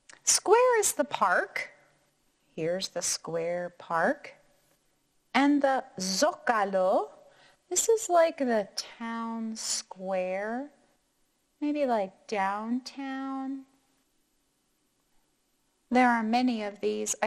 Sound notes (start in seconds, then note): none